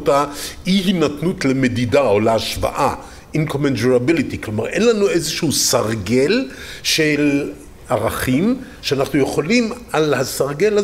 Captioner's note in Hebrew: אנגלית